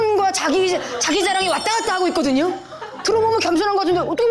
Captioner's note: Jekyll and Hyde-style speech